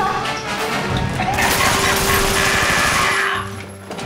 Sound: evil laugh

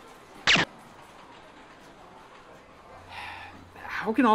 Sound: gun fires

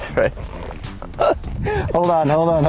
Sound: laughs

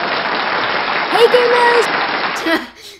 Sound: applause

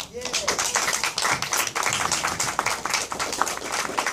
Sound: applause

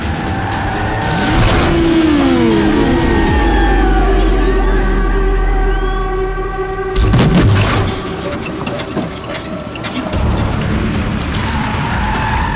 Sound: crowd Cheering

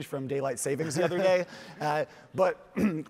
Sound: chuckles

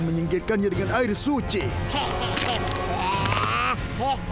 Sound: laughing

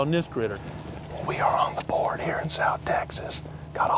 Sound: whispering

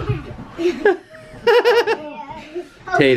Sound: laughing

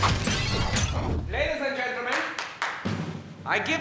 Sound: clapping

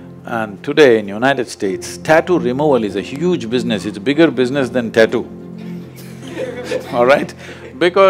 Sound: laughter

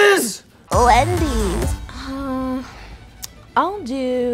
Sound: voiceover

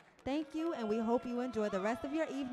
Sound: crowd cheering

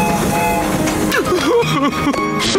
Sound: crying

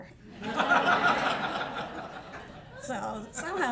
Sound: laughter

